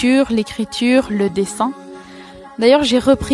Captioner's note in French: none